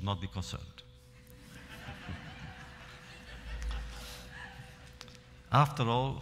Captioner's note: laughter